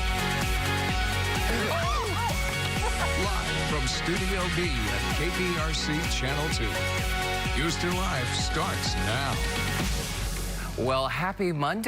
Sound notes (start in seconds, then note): 0.8 laughter